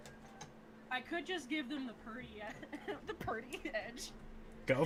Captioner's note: laughing